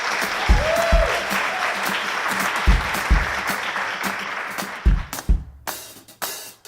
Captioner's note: applause and Music